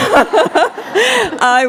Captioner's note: laughter